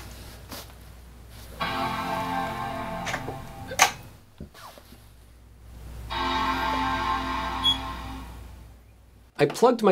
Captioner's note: Mac startup sounds